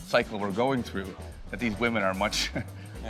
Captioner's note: chuckles